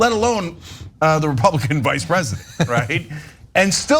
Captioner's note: laugh